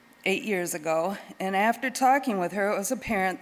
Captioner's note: none